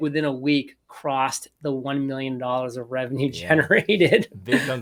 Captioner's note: laughing